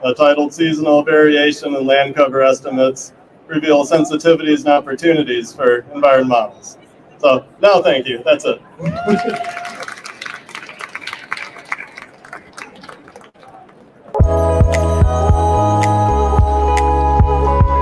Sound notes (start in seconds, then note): 9.0 applause